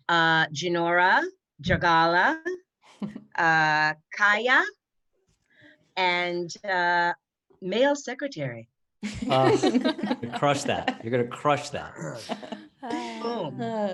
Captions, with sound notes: Jinora, Jargala, Kya, and male secretary. (all laughing) - You crushed that. You're gonna crush that.